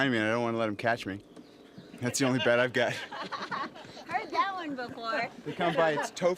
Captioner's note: laughter